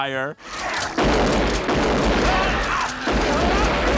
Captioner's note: gun banging